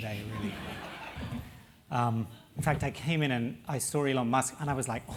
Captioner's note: laugh